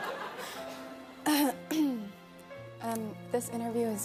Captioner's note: laughter; clears throat